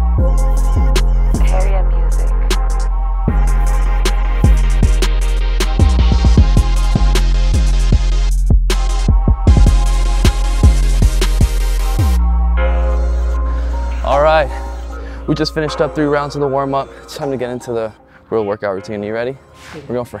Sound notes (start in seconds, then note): 2.1 automated Voice